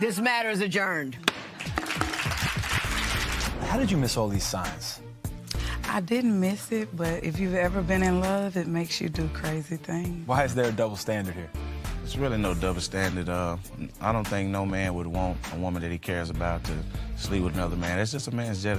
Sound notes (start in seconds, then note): 1.4 applause